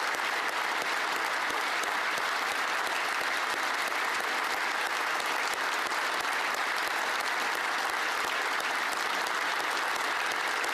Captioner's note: applause